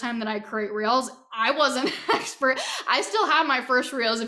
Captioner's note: laughing